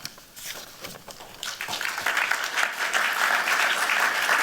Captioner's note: applause